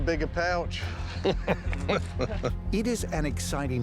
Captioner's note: laughter